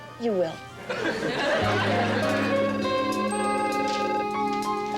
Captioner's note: telephone ringing